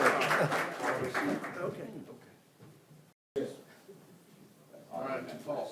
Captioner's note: indistinct background conversation